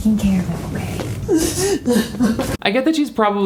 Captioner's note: Connie sobbing